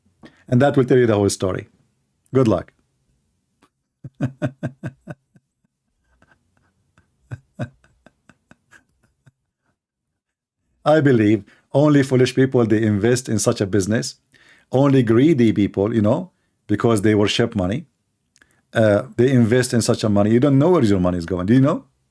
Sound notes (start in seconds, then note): 4.0 Ketawa